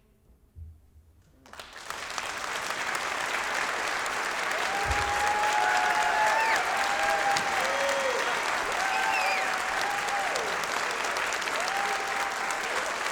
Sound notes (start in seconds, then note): 6.2 applause